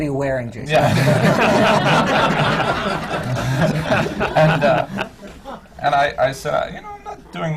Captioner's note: laughter